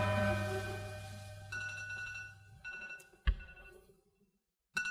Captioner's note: phone rings